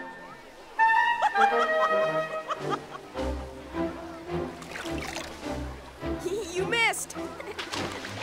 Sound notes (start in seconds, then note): 1.2 giggling